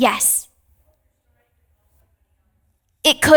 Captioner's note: participant faintly speaking